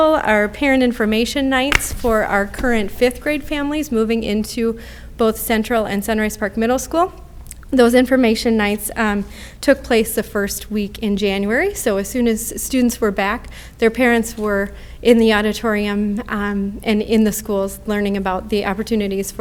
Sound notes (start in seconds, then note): none